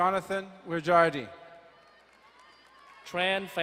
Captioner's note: distant cheering